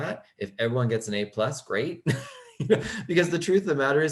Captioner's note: laughing